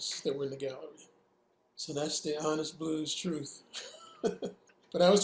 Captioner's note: laughing